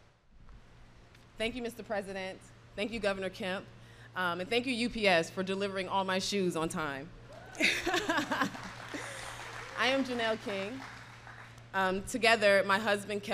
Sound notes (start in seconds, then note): 7.3 applause; 7.6 laughs